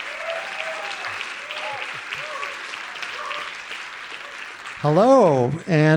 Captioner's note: audience applauding continues